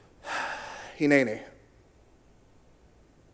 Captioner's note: in Hebrew